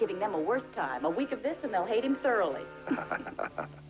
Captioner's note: chuckling